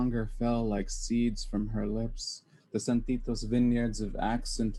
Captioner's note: foreign language spoken